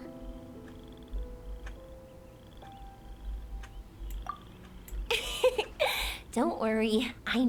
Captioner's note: laughs